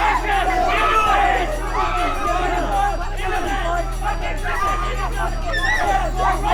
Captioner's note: gangsters jeering; woman screaming